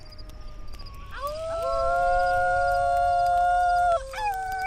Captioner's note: group howling